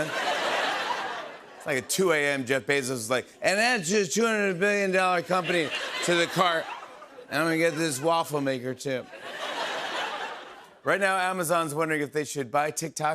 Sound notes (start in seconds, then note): 0.0 laughter; 3.3 slurred; 9.0 laughter; 9.7 normal voice